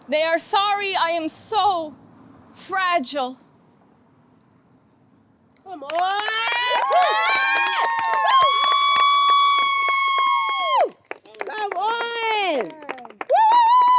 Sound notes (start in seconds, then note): 5.8 audience cheers and applauds